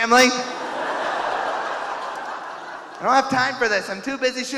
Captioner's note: audience laughing